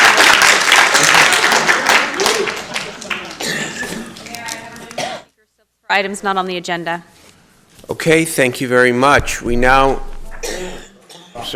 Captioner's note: applause